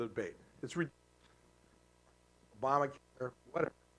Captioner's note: static